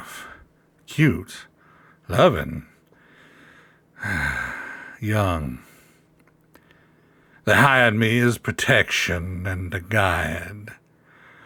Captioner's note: tired sigh